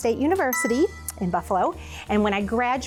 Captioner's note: bell dings